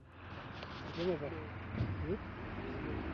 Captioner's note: passerby speaks in foreign language